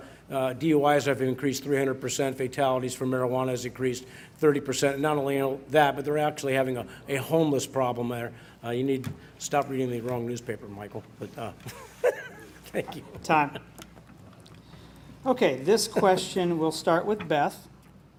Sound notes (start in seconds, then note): 11.7 laughs